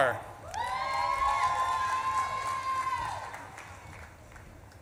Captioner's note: audience claps and cheers